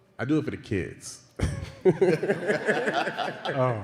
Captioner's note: laughter and cheering